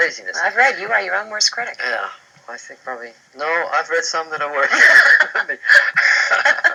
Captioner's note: laughs